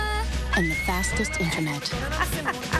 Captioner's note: girl screaming; laughter